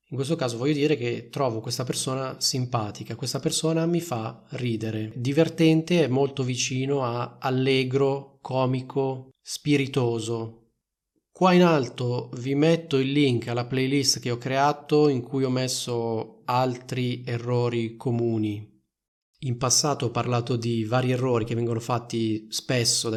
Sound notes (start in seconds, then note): 18.6 in Italian